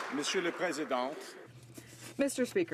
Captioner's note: some Applause